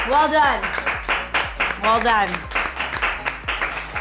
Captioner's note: clapping